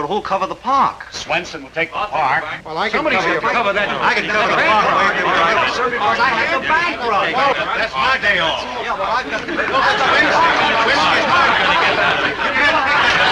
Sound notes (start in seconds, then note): 5.5 all chattering